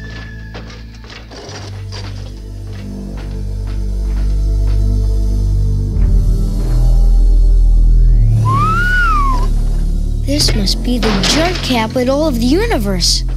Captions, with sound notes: (dramatic music) (whistling) - This must be the junk capital of the universe.